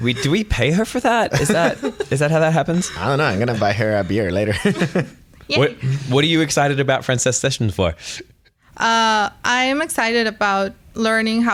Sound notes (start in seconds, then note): 4.7 laughter